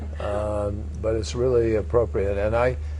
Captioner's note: laughter